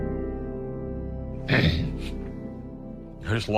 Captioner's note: clears throat